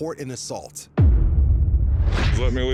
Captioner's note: boom